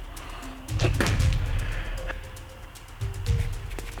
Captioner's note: Jason spits